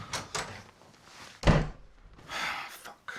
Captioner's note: door slams